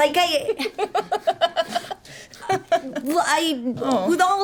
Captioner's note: laughter